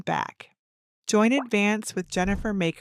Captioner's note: text popping